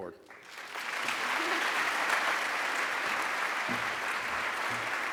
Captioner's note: applause